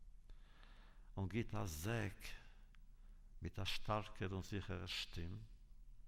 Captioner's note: Yiddish